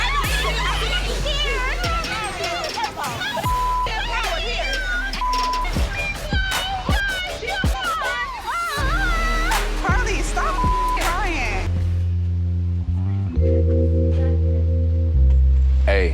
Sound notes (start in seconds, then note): 2.4 people speaking indistinct; 7.3 dramatic hip-hop music; 8.6 shrieking; 13.2 warm smooth music